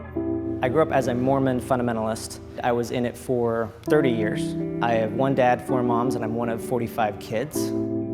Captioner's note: voice-over